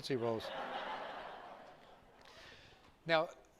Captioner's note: laughter